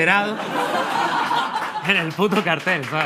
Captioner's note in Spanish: Risas